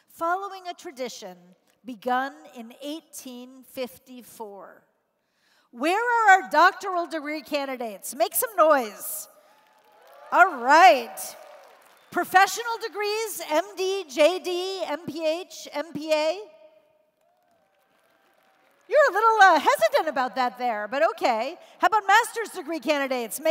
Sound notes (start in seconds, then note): 9.4 cheers; 17.2 applause and Cheers